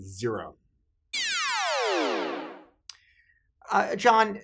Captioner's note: electronic buzzing